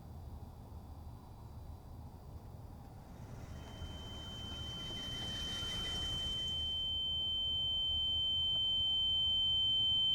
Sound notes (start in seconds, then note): 4.0 high pitched tone